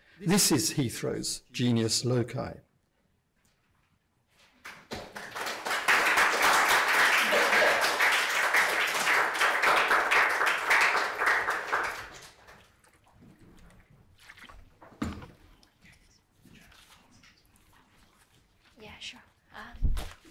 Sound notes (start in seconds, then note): 4.6 applause; 14.4 water splashing; 16.1 whispering